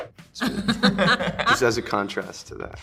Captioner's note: multiple laugh